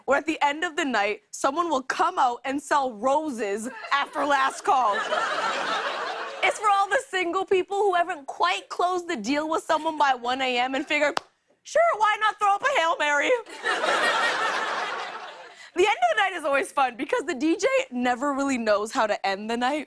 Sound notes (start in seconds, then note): 3.7 laughter; 13.4 laughter